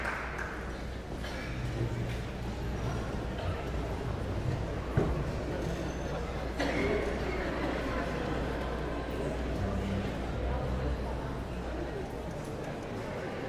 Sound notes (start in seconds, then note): 1.1 guests chattering